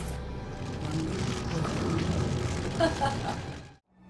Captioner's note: fire crackling